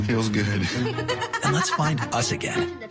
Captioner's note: laughs